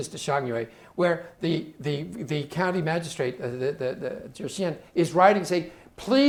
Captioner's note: speaking Chinese